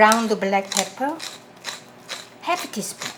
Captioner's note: pepper grinding